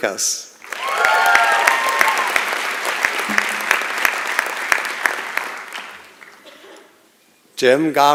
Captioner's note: applause and Cheering